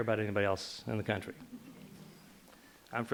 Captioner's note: light laughter